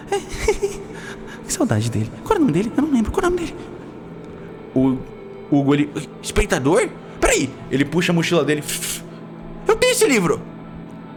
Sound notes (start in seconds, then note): 0.0 giggle; 8.8 ruffling sheets